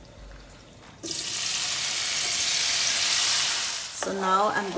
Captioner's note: loud sizzling